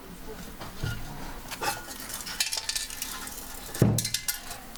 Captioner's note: clinking, something rolls